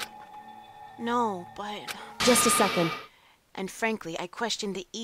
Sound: none

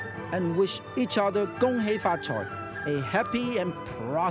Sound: speaks in foreign language

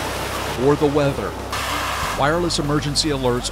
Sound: beeping

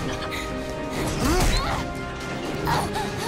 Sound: grunting

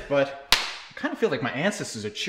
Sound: belt snap

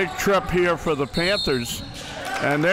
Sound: whistle blows

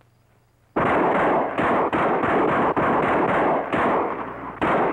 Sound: gunfire pops

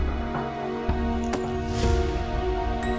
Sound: thudding

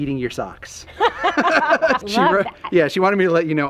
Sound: laugh

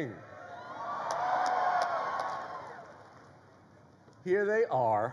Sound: crowd cheers

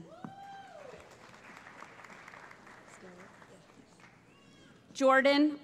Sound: applause

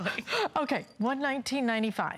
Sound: laughter

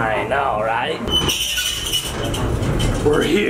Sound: elevator sqeaking

